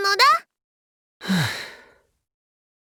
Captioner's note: sigh